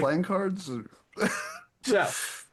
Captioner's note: laughing